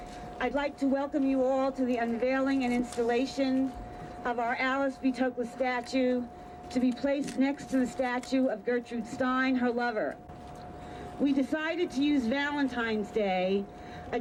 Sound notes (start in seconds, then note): none